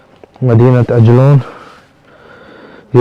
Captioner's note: Arabic